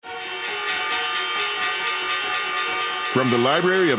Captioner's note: bell ringing